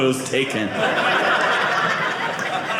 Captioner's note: audience laughing